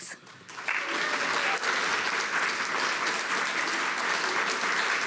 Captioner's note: audience applauds